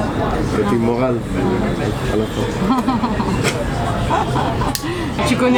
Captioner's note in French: rires